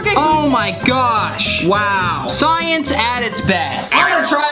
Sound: none

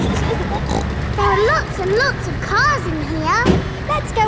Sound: giggling; snorts

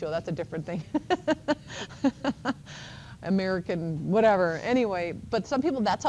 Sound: laughs

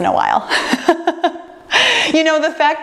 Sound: laughing

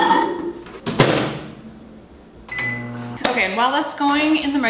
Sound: bowl clanks; microwave door clicks; microwave beeps

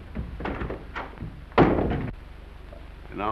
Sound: door bangs

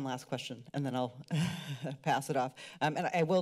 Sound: giggles

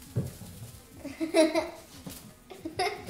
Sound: laughs

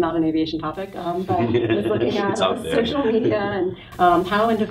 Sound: laughs

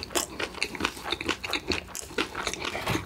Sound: crunching

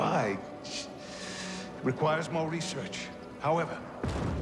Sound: inhale

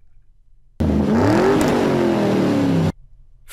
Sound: engine being revved

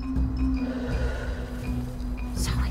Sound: exhales; whispers

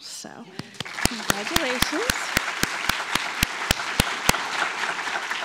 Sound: clapping; audience clapping

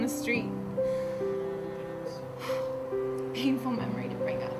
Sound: sighs

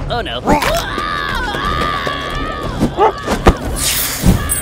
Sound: Wandering Traveler yelling; fire sizzles

